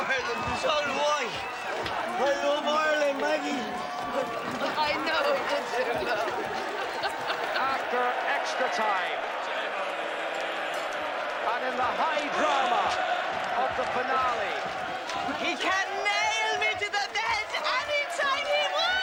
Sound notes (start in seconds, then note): 1.3 Reír